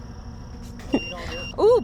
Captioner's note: EMF beeping